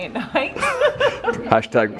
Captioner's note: laughter